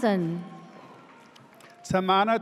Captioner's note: audience cheers